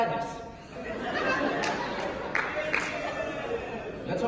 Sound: audience Laughing

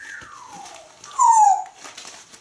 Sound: whistle

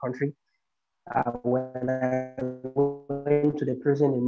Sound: static audio

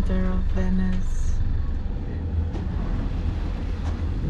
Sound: wind blowing

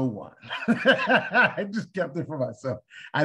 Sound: laughter

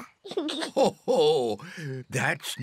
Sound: laughs; giggles

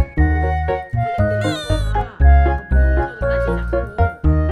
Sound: boohoo

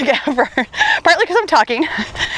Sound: laughs

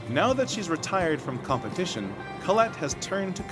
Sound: voiceover

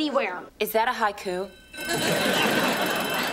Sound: <i>bell rings

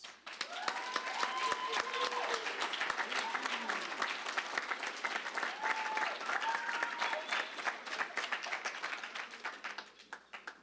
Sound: applause, cheering

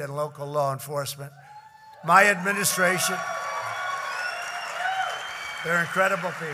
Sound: applause

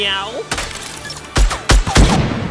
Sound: gun firing; explosion booms

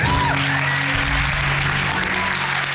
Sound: audience cheering and applauding

